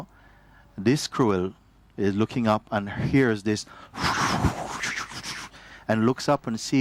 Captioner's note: whooshing sound